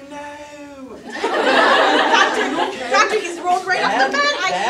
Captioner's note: audience laughter